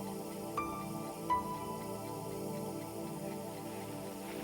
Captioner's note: clock ticking